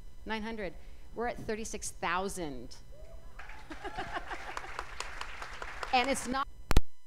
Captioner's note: cheers and applause